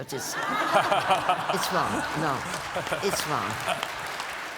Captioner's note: laughter